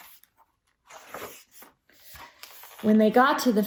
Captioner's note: turns page